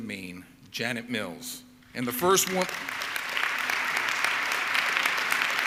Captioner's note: audience clapping